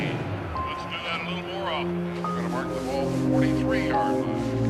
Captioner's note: indistinct chattering on TV